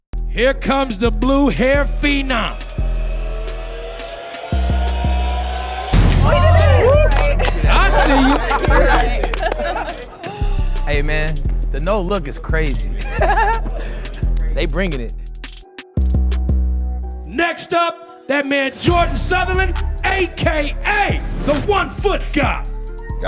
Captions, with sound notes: - Here comes the blue hair phenom! (cheering) I see you! (clapping and cheering) - Hey, man, the no look is crazy. (laughing) They bringin' it. - Next up, that man, Jordan Southerland AKA the One Foot God.